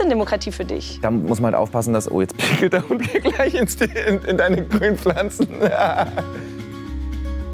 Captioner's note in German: lacht